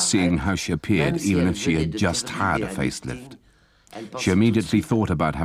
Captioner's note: speaking foreign language